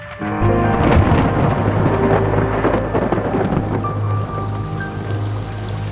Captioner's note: sound of thunderclap